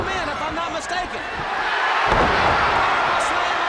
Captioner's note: crowd cheering